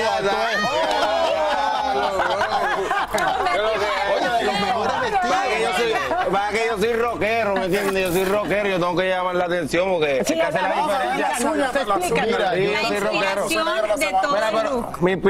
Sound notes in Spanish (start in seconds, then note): 6.9 risas